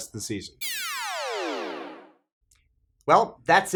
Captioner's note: electronic noise